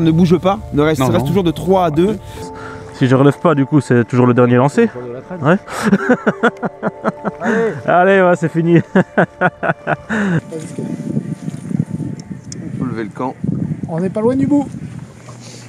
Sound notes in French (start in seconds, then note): 8.6 rires